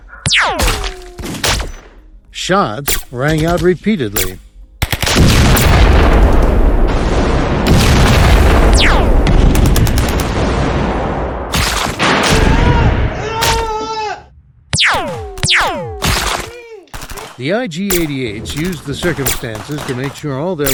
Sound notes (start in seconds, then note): 2.3 grenades being launched then exploding; 7.7 laser rifle weapons fire